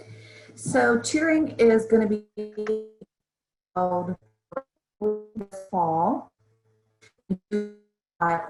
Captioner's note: distorted audio